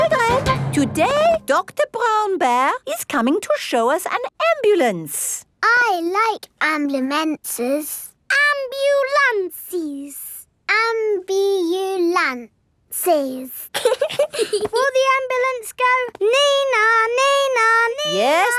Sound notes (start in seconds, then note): 13.7 both giggling